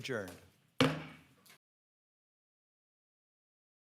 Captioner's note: gavel taps